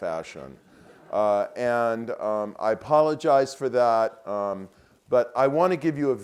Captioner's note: laugh